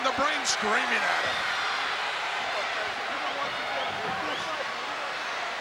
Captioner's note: crowd chattering